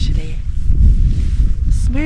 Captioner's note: wind